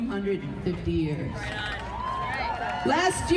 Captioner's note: crowd cheering